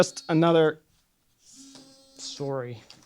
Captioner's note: phone buzzes